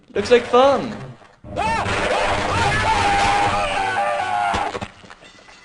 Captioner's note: screams of pain